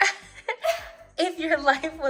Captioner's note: laughter